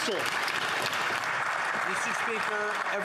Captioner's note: some Applause